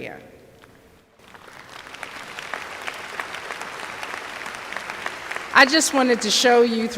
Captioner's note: applause